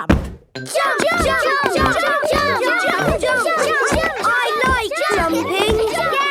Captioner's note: all shouting "Jump! Jump!"